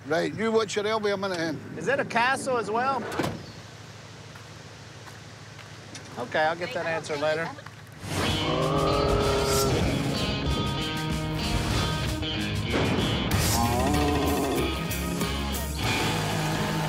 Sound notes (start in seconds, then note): 13.4 muted roar